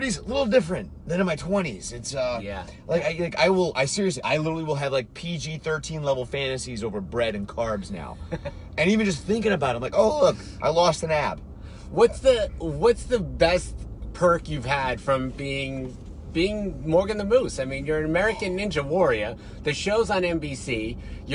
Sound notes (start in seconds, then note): 8.1 laughs